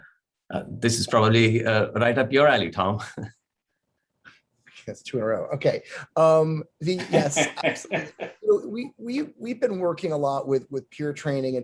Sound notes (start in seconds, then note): 3.0 laughter; 7.0 laughter